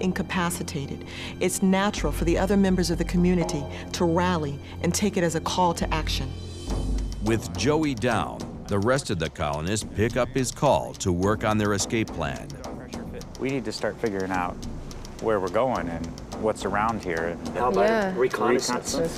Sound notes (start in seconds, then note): none